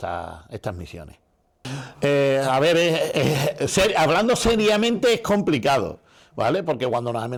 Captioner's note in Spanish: risas